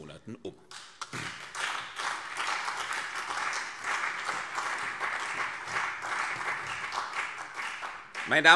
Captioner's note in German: Beifall CDU und BÜNDNIS 90/DIE GRÜNEN